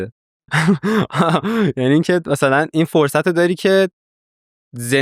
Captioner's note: laughs